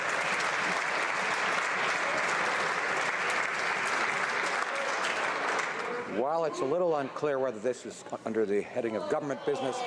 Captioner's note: some Applause